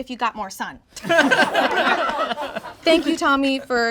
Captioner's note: all laugh